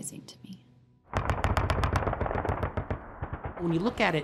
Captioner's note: guns firing